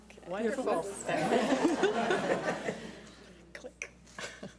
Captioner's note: audience laughs